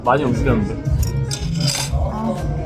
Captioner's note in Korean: 포크 떨어지는 소리